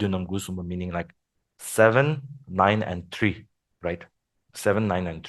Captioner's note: foreign language